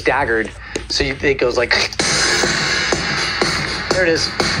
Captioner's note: mimicking crunching sound; digital drum clapping